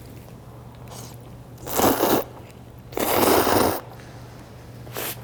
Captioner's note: slurping